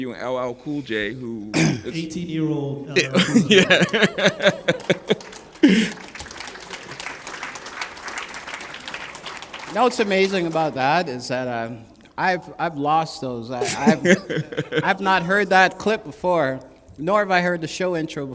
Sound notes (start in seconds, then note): 2.8 applause